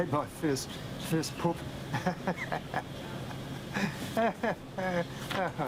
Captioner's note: chuckling